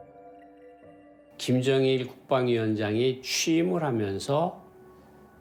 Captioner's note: speaking Korean